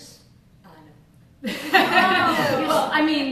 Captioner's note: laughter